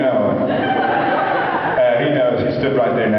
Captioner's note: laughs